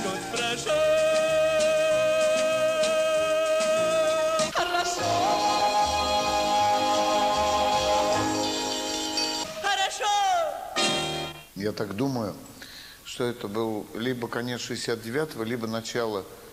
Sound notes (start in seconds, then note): 6.3 V. Chistyakov imitates Piekha's voice